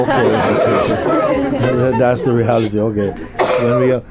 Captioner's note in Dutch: gelach